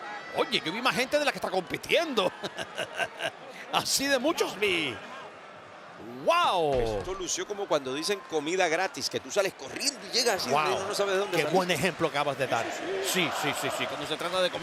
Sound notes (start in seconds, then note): 2.3 laugh